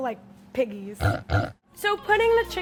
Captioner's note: oinks